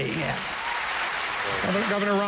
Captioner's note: applause